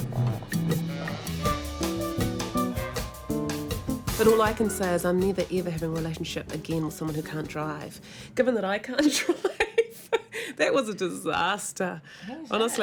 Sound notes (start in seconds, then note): 9.8 they laugh